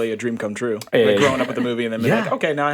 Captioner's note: chuckling